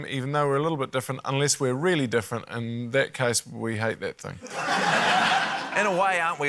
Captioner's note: laughter